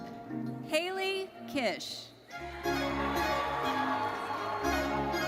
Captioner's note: audience cheers